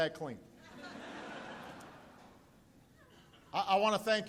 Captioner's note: laughter